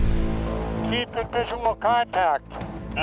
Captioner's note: speaking over radio